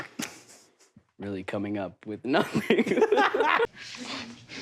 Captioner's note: breaks into laughter